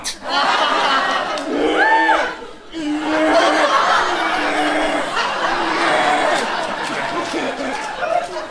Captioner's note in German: bestialisches Grunzen